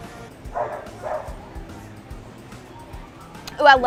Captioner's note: dog barks